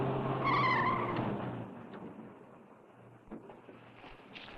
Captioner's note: tires screeching